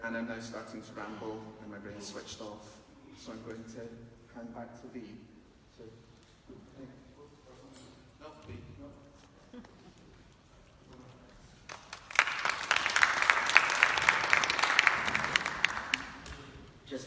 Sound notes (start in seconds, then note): 11.6 clapping